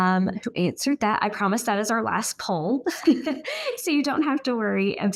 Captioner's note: giggles